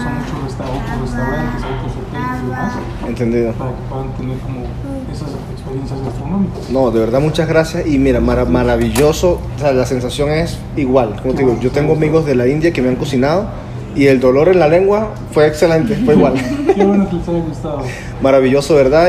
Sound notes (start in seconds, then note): 12.3 laugh